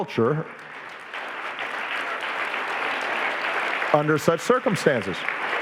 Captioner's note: audience applauding